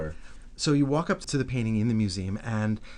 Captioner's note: voiceover